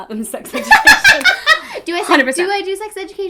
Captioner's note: laughing